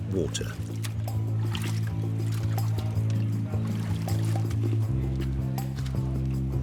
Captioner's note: water splashing; suspenseful music